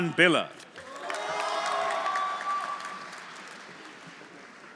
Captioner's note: audience applauding; audience cheering